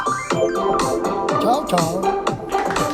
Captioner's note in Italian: Applauso